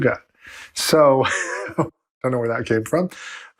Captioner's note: laughs